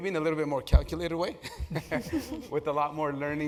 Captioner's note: laugh